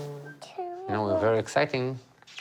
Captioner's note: speaks in foreign language; mumbles